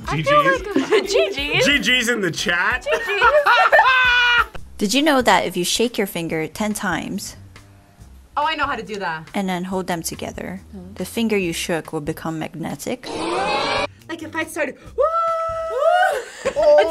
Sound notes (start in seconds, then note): 2.9 both laugh; 2.9 laughs; 13.3 crowd; 16.2 laughs